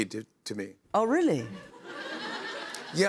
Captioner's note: laughter